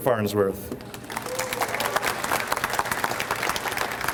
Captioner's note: audience applauds